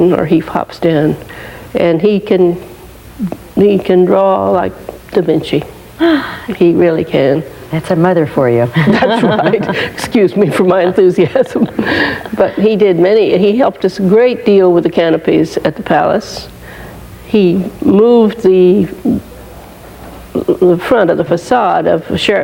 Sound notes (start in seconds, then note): 8.7 laughing